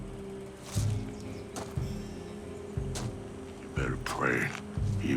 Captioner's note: footsteps crunching